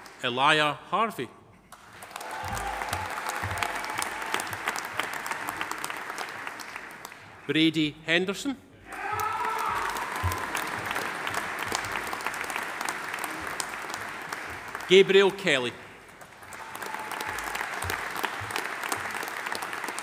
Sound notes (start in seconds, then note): 1.7 audience applauding; 2.0 audience cheering; 8.8 audience cheering; 9.1 audience applauding; 16.5 audience applauding